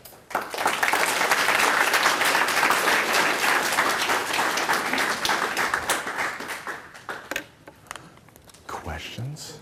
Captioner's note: applause